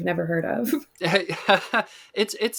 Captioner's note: both laugh